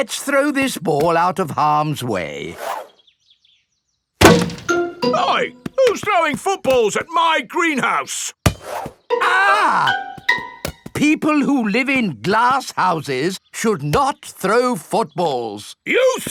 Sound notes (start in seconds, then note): 4.2 thuds; 9.2 screams